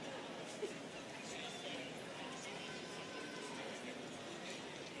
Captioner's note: students chattering